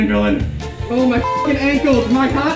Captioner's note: beeping